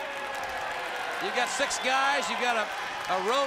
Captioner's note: crowd cheering